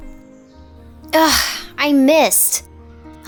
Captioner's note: sighs